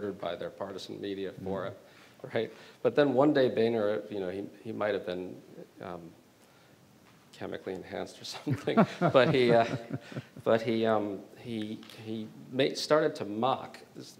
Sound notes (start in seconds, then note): 8.5 chuckling